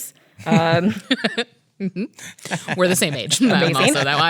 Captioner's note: laughs